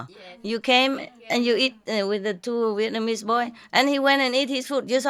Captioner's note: Vietnamese